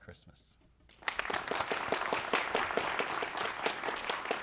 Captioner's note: crowd applauds